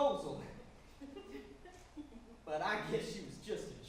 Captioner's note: audience giggles